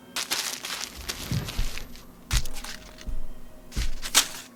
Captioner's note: paper rustles